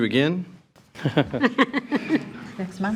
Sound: trustees chuckling

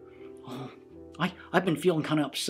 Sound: sigh

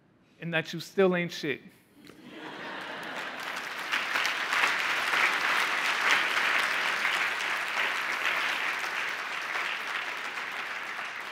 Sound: laughing

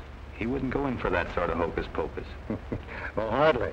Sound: chuckling

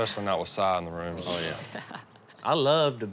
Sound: laughs

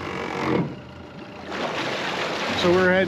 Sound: boat engine running

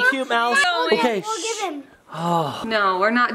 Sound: inaudible yelling

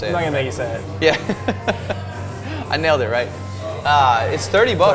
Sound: laughs

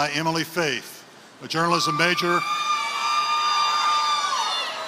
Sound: applause

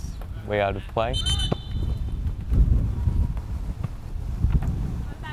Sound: whistle blows

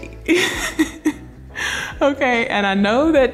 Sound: laughing

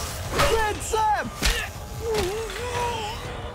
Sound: groaning

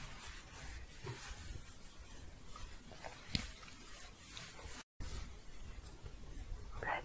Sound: shuffling

